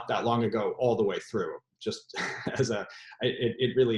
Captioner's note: laughs